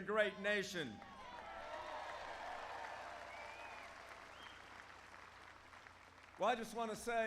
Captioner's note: applause